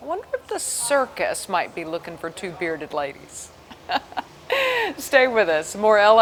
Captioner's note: laughs